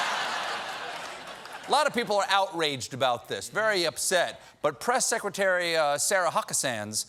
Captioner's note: laughter